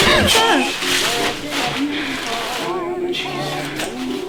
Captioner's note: emilie shrieks